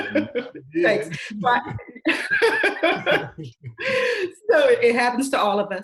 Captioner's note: all laughing